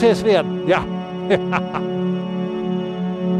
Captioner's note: Santa laughs